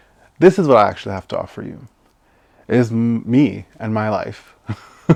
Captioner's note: laughs